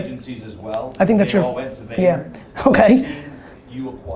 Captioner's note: chuckles